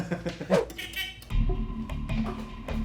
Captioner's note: hooter buzzing; intense music